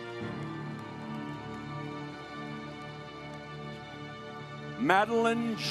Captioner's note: audience applauds